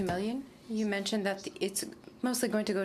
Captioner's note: speaking French